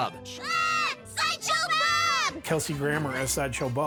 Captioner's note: both screaming